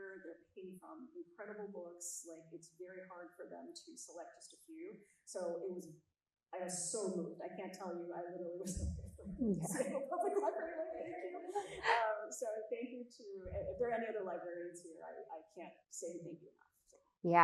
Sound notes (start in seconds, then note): 9.5 chuckles; 9.7 faintly speaks